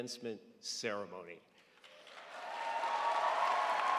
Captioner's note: crowd applauds